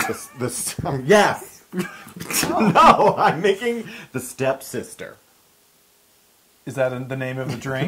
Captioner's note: laugh